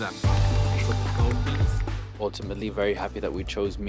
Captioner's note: group applauds